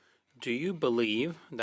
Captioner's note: speaking French